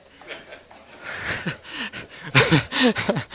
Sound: laughing

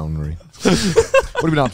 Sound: all laughing

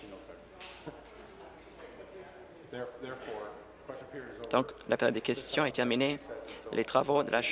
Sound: conversation din

